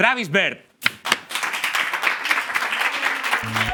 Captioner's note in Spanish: Aplausos